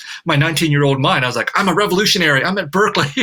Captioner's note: laughs